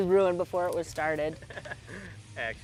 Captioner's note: man chuckles